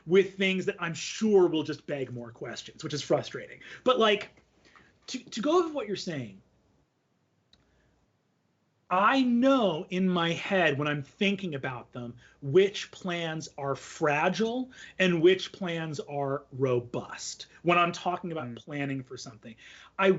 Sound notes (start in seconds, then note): none